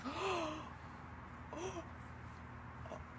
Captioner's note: gasps in shock